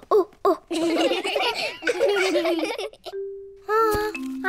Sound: children laughing; all laugh

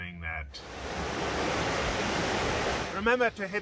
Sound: waves burbling

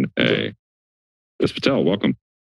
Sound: silence

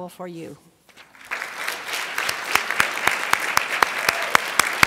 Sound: crowd applauds

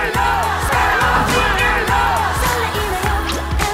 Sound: fans yell the chants

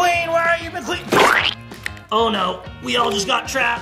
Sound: squelching noise

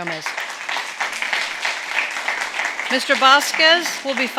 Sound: audience clapping

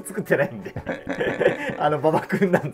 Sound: laughing

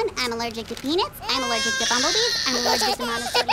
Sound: baby cries; baby laughing covers voice

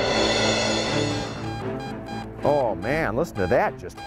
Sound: dramatic music; beeping

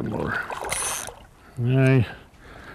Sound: splash

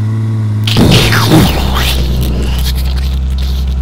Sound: explosion

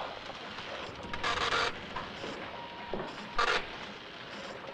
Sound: printer running

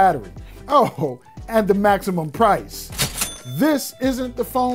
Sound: bell dings

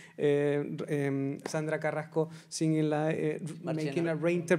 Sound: speaking Spanish; speaks faintly

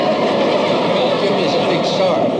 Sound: audience laughs

